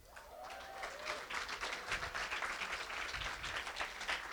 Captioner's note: applause